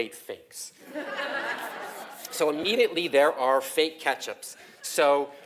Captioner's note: laugh; laugh